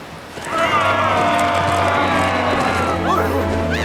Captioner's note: all yelling